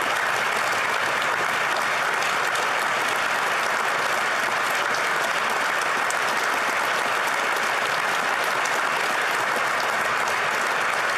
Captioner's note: applause